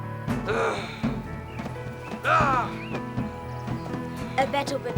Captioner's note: drums pounding; Zoot yelling